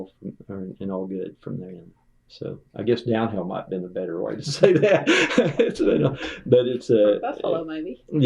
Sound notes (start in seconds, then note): 4.4 laughter